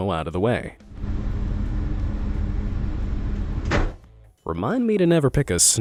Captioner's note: train engine revving